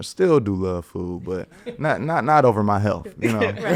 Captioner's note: laughs; podcaster chuckling